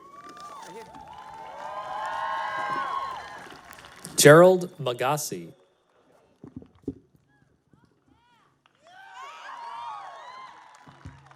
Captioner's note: cheering